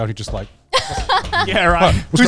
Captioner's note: laughing